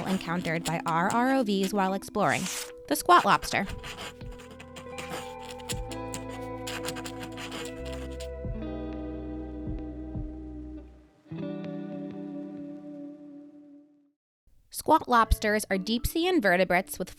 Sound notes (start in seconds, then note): 4.1 text scratching